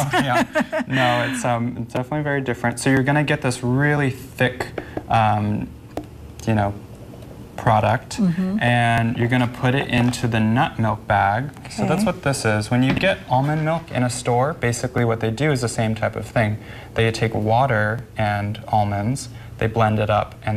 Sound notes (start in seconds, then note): 0.0 laughing; 4.8 spoon tapping